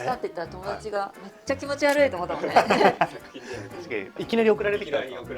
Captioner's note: laughs